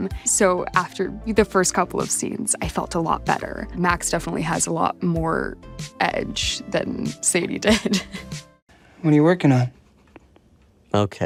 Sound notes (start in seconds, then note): 7.7 laughing